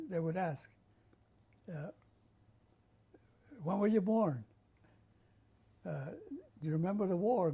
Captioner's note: pauses for 3 seconds